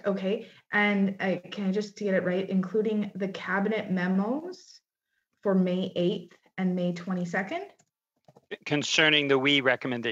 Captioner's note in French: voix de l'interprète